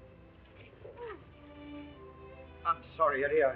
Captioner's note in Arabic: تلهث